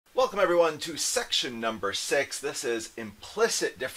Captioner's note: voiceover